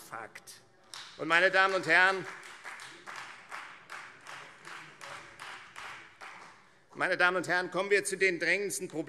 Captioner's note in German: Beifall Freie Demokraten